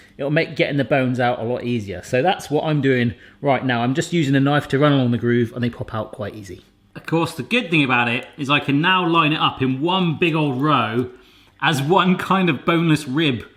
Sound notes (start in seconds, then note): none